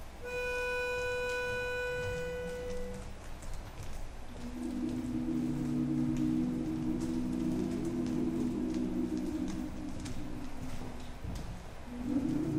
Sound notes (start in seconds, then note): 0.0 soft music; 4.2 actors humming